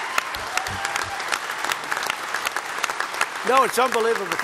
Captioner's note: applause